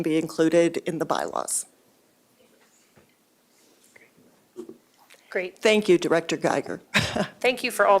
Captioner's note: laughter